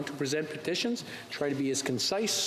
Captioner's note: speaking French